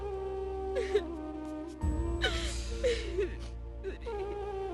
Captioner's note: crying